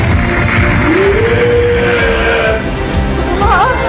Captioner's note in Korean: 엔진대왕의 기합 소리